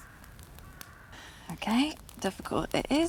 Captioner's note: sighing